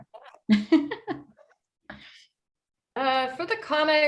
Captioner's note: laughs